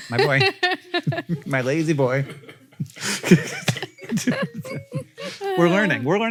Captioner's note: Rachel and Hank laugh